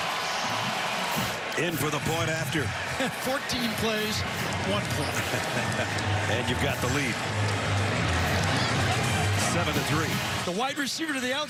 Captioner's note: cheers and applause